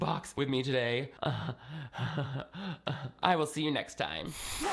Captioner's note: awkwardly laughing